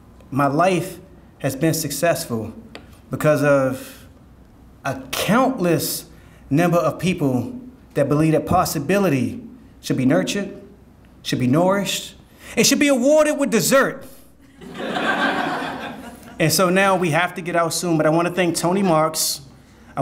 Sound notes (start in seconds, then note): 14.5 audience laughing